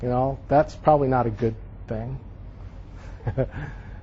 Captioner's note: chuckles